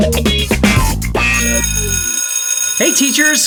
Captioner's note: school bell ringing